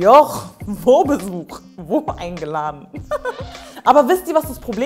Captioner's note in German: Sie lacht